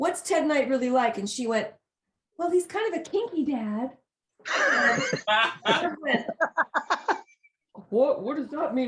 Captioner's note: laughter